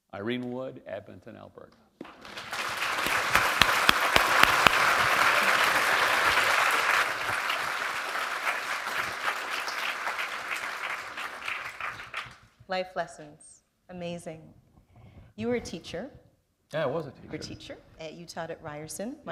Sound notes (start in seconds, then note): 6.0 applause